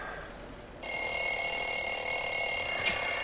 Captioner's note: telephone rings